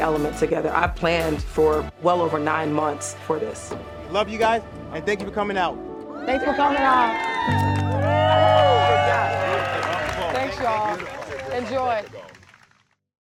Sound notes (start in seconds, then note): 3.2 mallet thudding; 6.0 crowd cheering